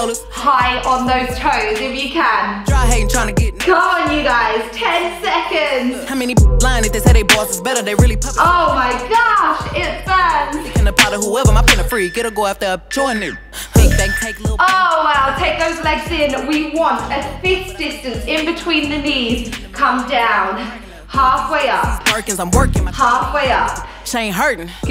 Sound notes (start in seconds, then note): 10.5 timer beeps